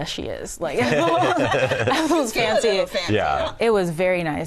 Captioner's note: laughter